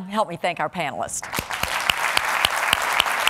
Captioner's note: applause